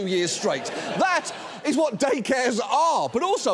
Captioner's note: audience laughs